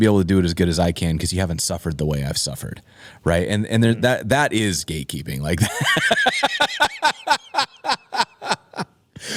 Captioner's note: laughs